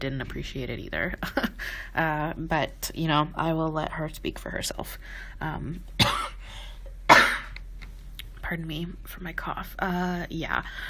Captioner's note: coughs